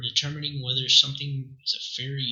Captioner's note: none